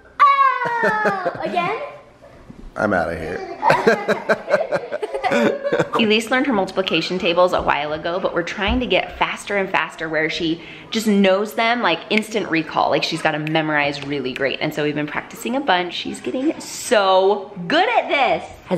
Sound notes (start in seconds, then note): 0.3 laughs; 3.4 laughs; 12.0 snaps